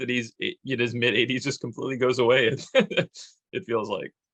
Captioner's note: chuckles